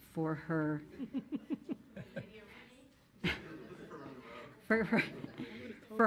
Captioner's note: crowd faint speaking